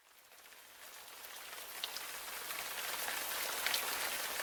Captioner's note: rain